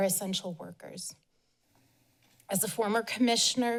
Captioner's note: pause